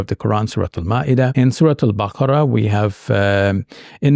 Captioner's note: speaking Arabic